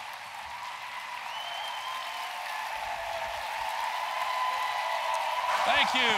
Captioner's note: applause